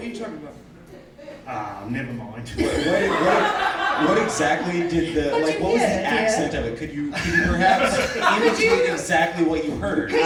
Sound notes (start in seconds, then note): 2.6 audience laughing